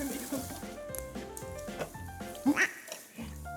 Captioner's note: sniff